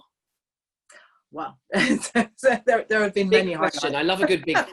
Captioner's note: chuckles